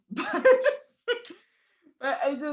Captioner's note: laughs